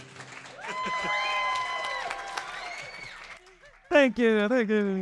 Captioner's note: audience applauding; audience cheering; chuckles